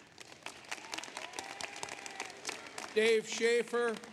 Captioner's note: applause